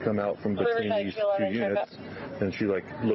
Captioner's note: radio chatter